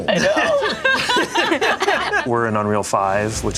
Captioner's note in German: Gruppe lacht